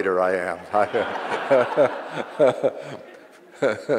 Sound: audience laughs; laughs

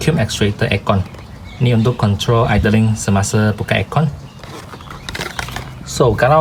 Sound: control idling when AC kick in

